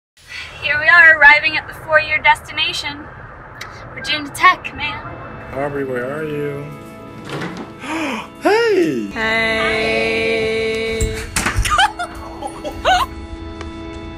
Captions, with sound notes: Here we are arriving at the four-year destination. Virginia Tech, man. Aubry, where are you? [gasps] Hey. -Hey. -Hi. [laughter]